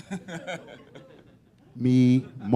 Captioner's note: laughter